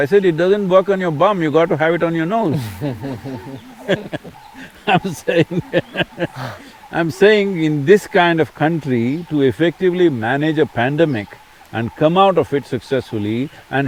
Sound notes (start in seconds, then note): 5.5 both laugh